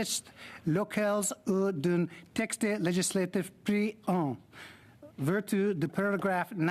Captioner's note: speaking French